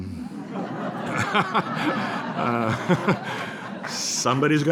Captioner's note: laughter